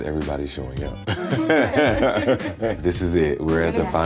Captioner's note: all laughing